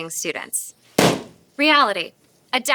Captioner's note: balloon pops